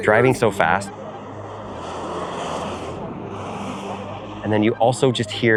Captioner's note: car whooshing